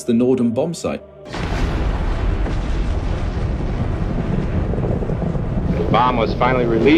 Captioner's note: soundbite of archived recording